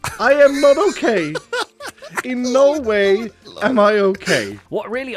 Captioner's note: laughs